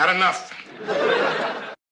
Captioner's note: laughing